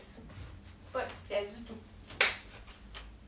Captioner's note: clap